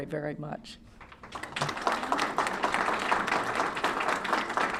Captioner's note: applause